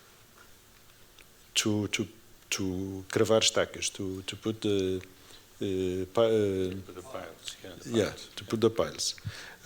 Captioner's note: non-english speech